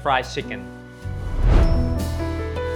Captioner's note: whoosh; calm music